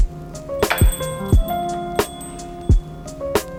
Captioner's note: bell chimes; upbeat music